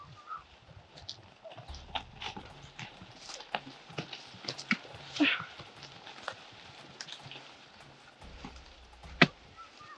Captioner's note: footsteps clumping